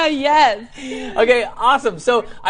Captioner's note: laughs